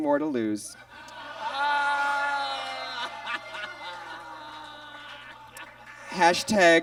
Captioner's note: audience laughs; groans